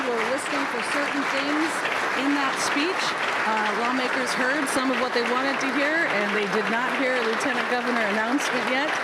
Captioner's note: applause